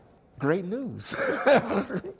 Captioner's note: laughter